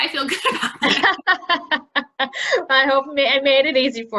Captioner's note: laughing